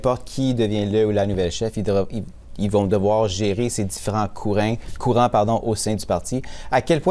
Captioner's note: speaking French